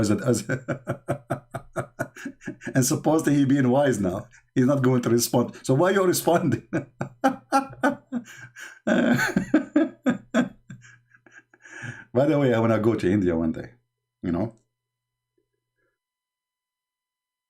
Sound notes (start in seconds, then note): 0.1 Ketawa; 6.2 Ketawa